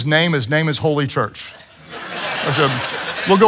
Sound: congregation laughs

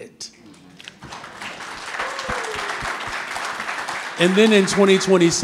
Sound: audience clapping

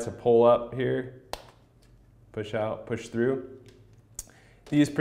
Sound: popping

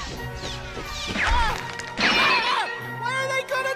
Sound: glass and concrete breaks

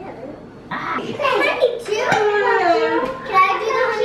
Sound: children all talking

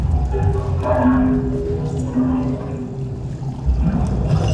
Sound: bell chiming

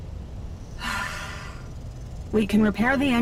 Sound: sighs

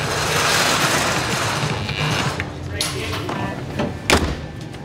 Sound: garage door opens

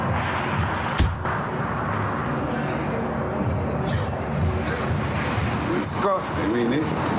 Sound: traffic roaring; punch thudding

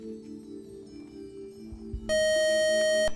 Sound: beeping

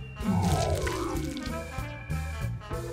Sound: electric static

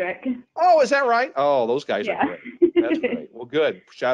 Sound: chuckling

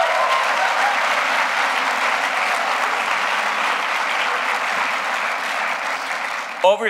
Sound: applause

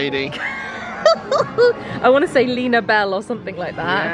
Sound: laughs

